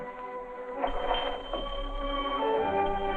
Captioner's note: doorbell ringing